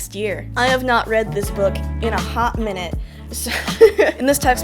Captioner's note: laughter